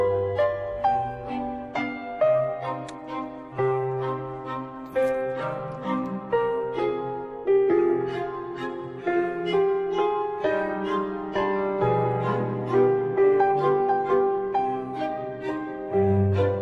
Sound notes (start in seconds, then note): 2.8 smooching; 7.4 cinematic music